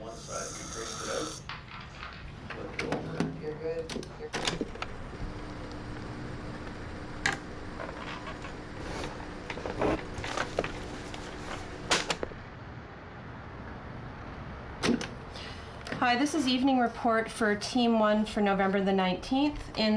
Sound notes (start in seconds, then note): 4.3 cassette Rewinding